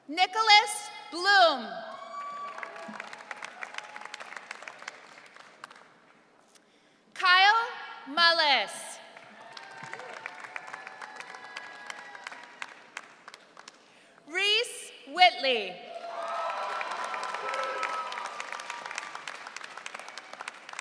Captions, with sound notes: Nicholas Bloom. (audience cheering) Kyle Malles. (audience cheering) Reese Whitley. (audience cheering)